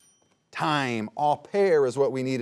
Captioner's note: bell rings